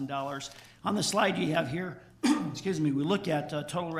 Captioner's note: clears throat